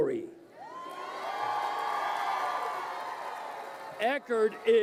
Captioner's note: crowd cheering